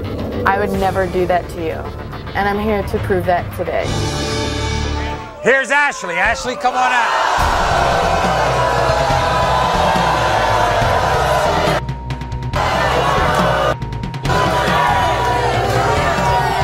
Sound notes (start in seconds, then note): 7.1 audience booing